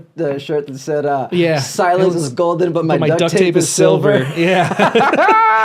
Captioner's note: laughs